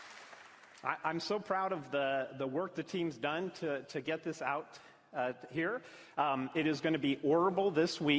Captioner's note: applause